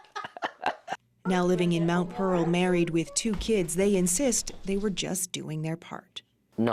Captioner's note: laughter